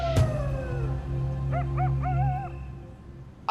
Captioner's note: howling